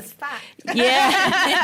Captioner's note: laughter